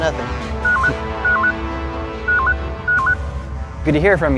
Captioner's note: beeping